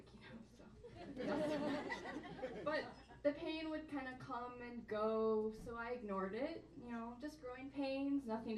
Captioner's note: audience laughs along; laughs